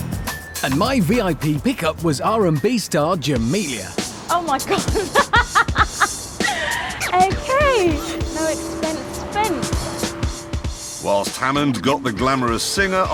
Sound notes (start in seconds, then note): 4.6 laughs